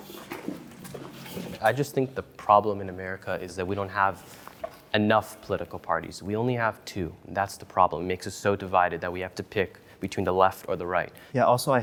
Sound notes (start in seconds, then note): 0.0 footsteps